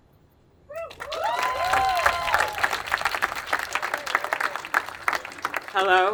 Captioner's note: attendees applauding and cheering